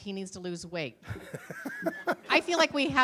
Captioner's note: laughter